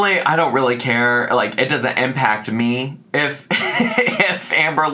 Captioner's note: laughs